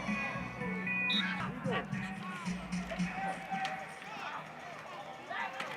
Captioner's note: whistle blows